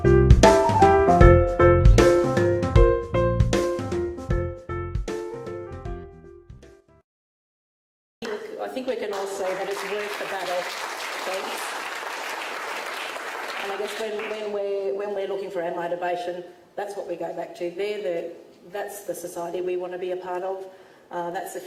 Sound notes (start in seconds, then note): 8.7 audience claps